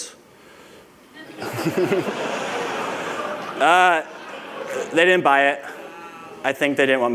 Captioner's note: laughter